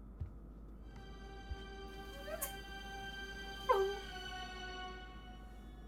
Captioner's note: Heather crying; dramatic music